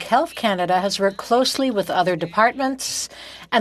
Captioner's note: speaking French